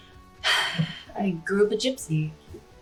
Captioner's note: sighs